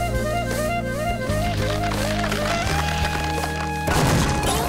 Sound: cracking

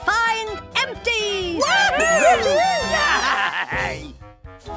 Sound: cheering

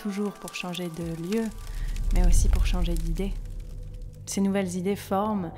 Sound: fire crackling

